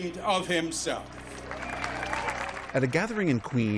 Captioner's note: cheering